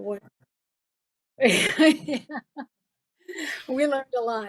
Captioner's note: laughing